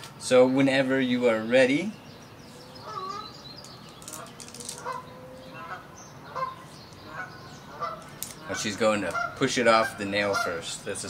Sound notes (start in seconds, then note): 3.9 geese honking; 4.0 wax paper crunches